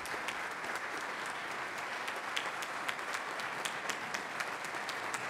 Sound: senate clapping loudly

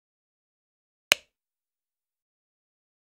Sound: sound of light switch

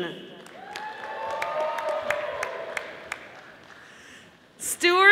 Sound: audience applauding

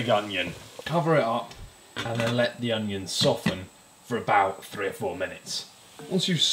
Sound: pat pat

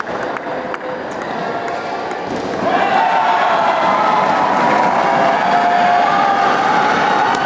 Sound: applause

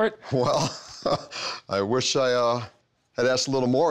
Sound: chuckles

